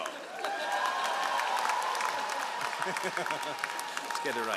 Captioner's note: all applauding